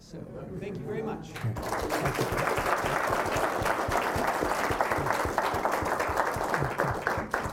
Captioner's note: applause